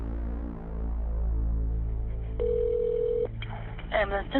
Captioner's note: phone ringing